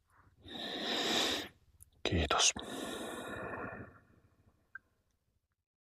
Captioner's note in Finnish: huokaus